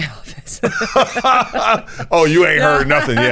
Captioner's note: both laughing